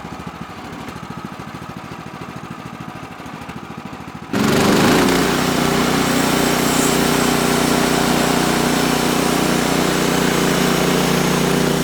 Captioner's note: motor rumbling